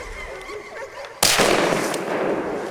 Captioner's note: gunshot